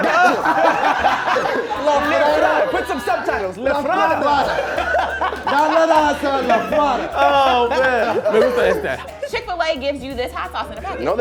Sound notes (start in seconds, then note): 0.1 laughing; 4.7 laughing; 8.4 speaking in a foreign language